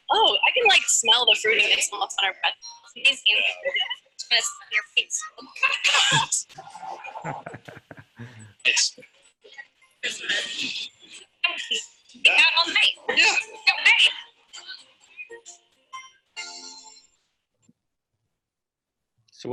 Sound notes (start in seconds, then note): 7.0 both laughing; 15.4 lighthearted music